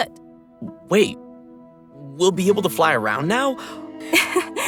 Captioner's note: gasp